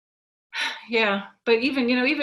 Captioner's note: sighs